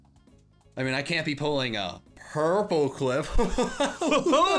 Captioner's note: laughing